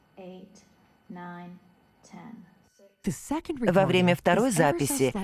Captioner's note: higher-pitched voice